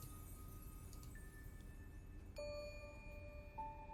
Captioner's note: ding